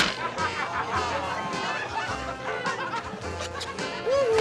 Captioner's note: scattered laughs